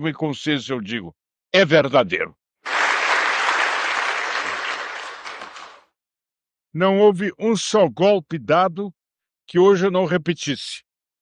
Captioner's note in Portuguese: aplausos